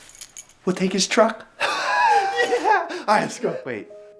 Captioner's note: snickers